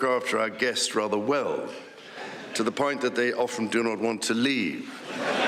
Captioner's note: laughter